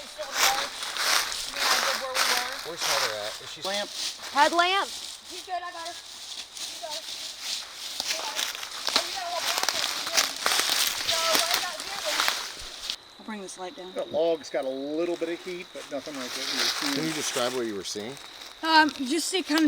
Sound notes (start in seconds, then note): 10.4 walking, rustling